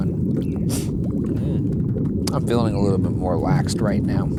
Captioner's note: sniffs